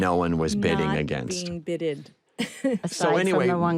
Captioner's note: laughs